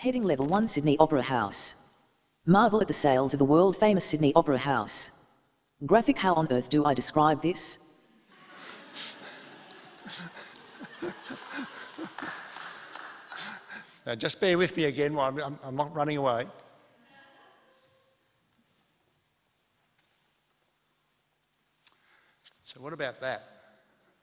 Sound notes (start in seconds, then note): 12.2 laughter and applause